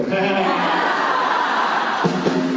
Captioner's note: pun-shaming from crowd